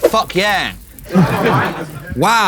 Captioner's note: KSI laughs